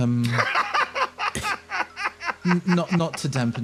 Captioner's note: laugh